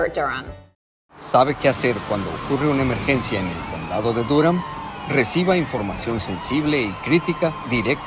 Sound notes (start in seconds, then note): 1.4 announcer speaking in foreign language